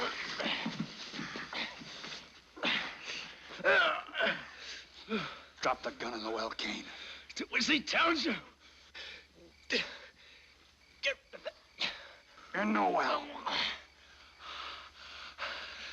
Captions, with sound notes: (GRUNTING) Drop the gun in the well, Kane. Do as he tells you. In the well.